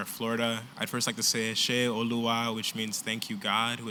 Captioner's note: non-english